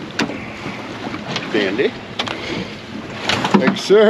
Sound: fish splashing

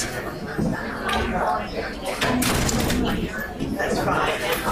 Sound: talking

